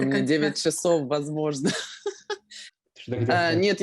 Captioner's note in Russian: смеется